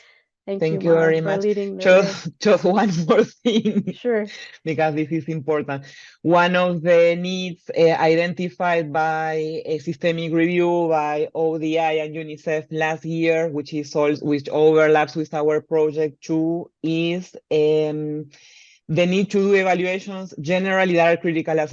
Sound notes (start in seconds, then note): 3.7 laughs